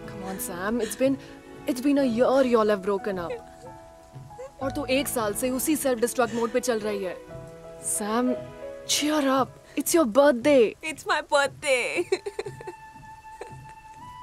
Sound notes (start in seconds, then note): 12.4 crying